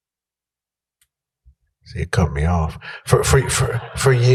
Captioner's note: laughter